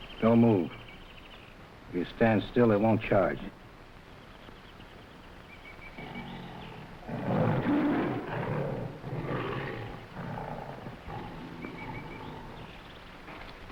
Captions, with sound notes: - Don't move. If you stand still, it won't charge. (animals chattering) (lion grunting)